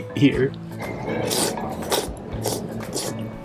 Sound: slurps

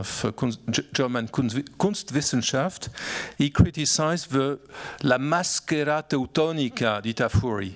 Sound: speaking italian

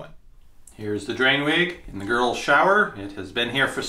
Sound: voiceover

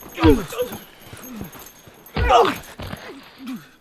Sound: grunting

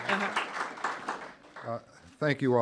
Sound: applause

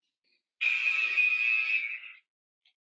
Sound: alarm blares

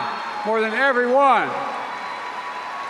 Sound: applause

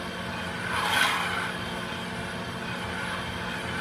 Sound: metal grinding

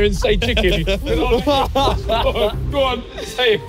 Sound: laughing

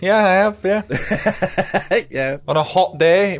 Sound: laughs

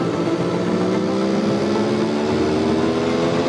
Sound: engine revving

